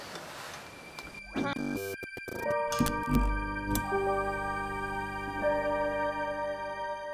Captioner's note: eerie music; electric crackling